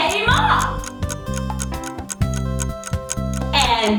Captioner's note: clock ticking noises